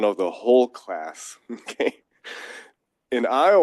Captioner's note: laugh